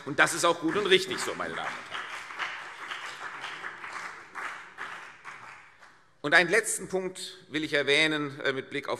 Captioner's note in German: Beifall CDU und BÜNDNIS 90/DIE GRÜNEN